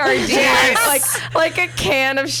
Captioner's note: laughs